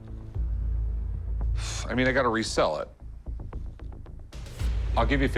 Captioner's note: sighs